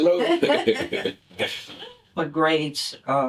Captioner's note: laughter